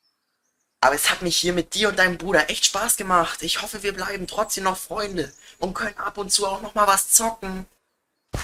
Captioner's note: calling